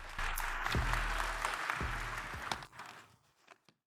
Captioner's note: audience applauding